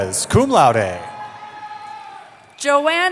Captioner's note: cheering